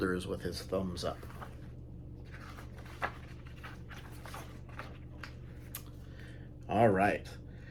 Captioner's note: pages turn